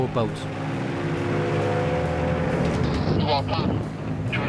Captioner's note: boat droning